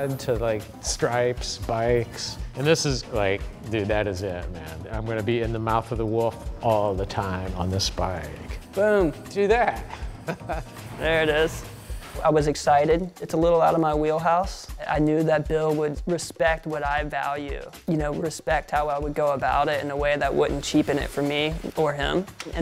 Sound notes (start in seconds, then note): 9.8 laughs